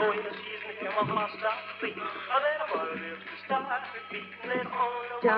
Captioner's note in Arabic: أغنية على الراديو - روكابيلي; خطوات على الرصيف